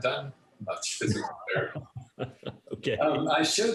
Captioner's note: laughter